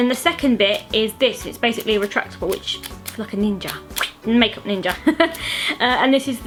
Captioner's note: laughs